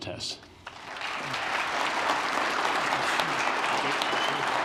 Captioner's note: applause